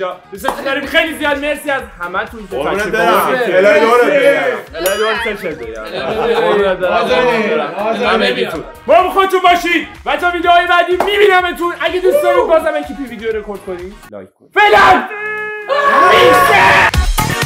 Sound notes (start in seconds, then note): 2.5 all speaking and cheering